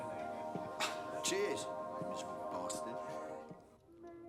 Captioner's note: scoffs